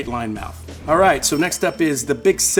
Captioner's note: bell dinging